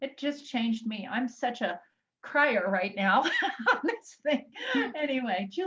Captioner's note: laughs